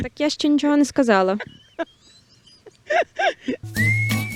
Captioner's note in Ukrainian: сміється